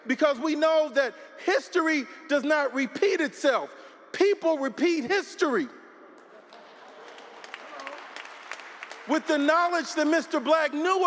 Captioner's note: applause